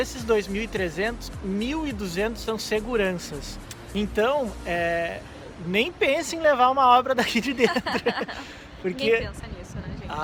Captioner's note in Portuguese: risadas